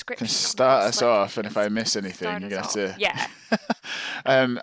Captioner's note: laughs